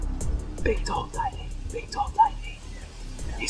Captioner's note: whispering; whispering